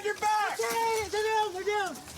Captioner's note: screaming